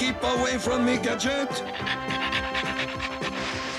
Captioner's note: panting